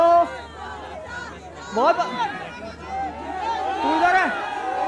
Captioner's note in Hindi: चियरिंग